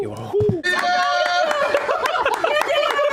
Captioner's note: everyone cheering